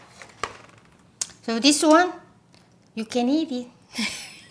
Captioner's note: laughs